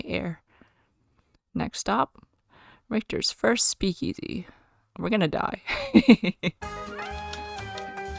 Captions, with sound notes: We're gonna die. [laughs]